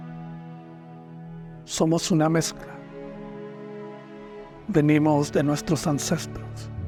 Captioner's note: narrator speaking in foreign language